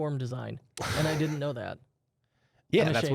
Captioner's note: softly chuckles